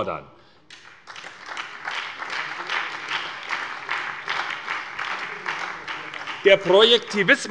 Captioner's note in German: Beifall bei der SPD